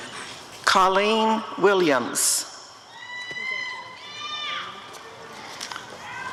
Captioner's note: applause and cheering